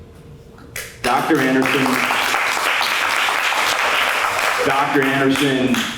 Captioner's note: applause